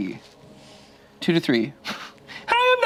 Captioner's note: laughs